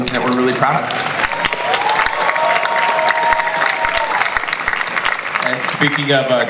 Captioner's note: audience applauds